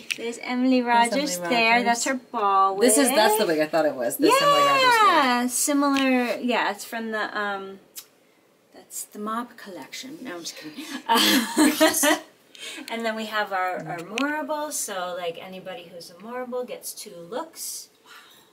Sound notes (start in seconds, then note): 12.3 laughs